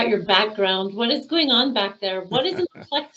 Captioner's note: laughing